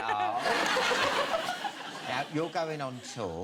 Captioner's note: audience laughing